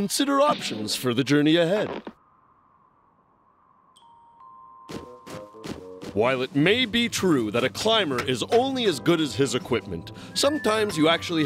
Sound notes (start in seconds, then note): none